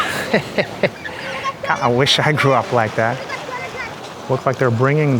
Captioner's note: laughs